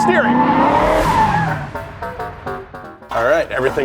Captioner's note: car revving